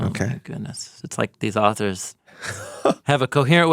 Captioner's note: chuckles